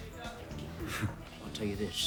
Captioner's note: John scoffs